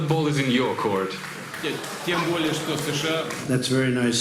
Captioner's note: speaking Russian